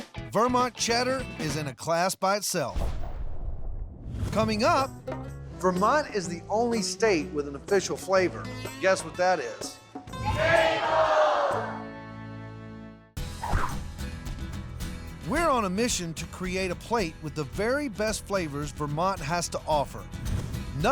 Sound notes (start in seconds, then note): 10.2 everyone shouting